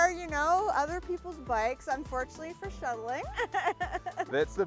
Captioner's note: laughs